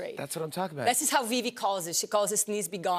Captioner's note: none